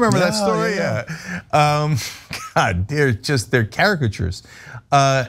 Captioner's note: laugh